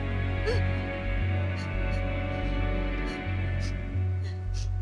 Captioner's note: Edith sobbing